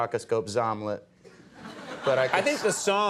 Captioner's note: audience laughing